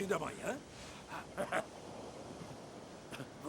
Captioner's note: laughing